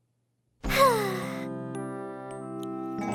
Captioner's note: sighing